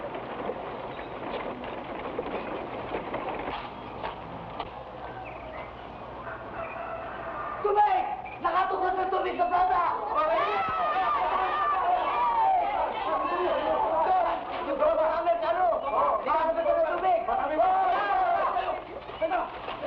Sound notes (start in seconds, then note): 7.8 man shouts; 9.9 people shout